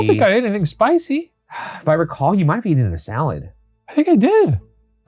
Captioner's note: sighs